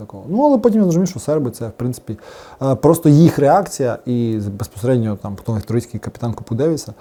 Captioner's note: Serbian